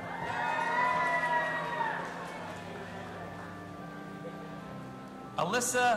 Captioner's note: audience applauding and cheering